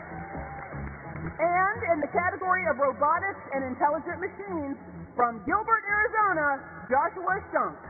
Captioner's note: cheers and applause